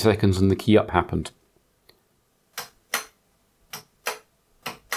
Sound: blank Audio

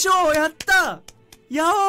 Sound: clap

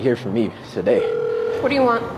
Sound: phone ringing

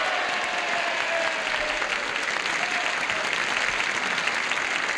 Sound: cheers and applause

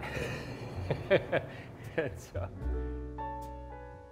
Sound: laughs

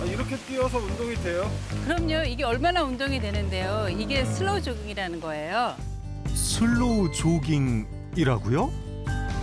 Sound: voiceover

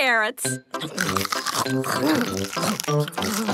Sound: crunch

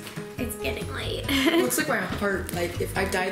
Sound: giggles

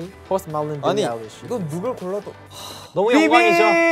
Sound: speaking in Korean

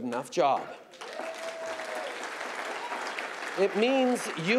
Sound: applause

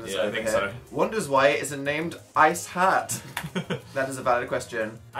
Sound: chuckles

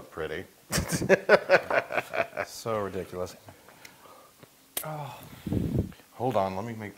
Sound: laugh

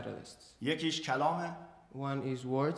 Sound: speaking in farsi

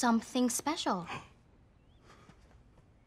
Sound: gasps

